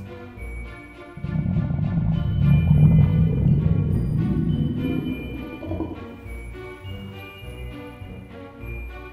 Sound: eerie echoes go grrrrrrr

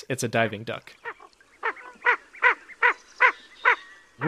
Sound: ring-necked Duck call

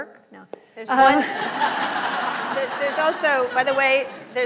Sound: laughter

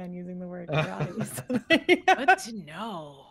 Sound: all laughing

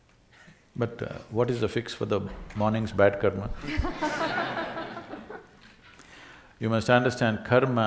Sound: laughter

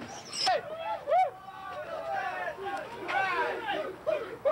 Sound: players yelling

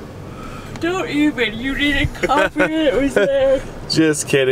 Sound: yawning; laughing

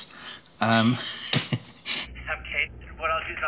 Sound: chuckles

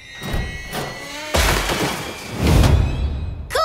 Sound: door creaks open

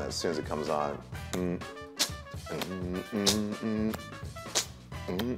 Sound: making beat

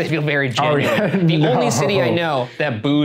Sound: chuckles

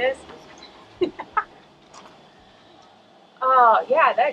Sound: laughing

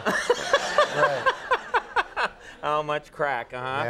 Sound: Conan laughs

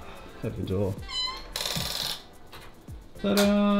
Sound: door creaks

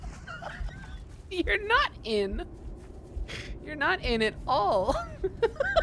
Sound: laughing

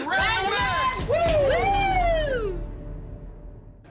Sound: cheering

